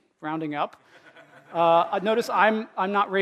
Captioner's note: laughter